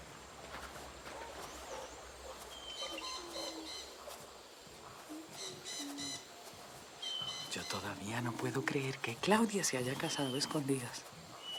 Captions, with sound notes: [bugs buzzing and birds chirping] I still can't believe that Claudia got married secretly!